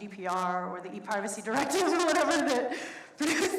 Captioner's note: laughs